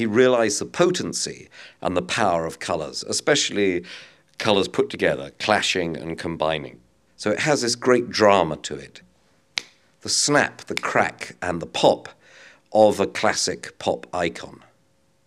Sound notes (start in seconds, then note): 10.6 snaps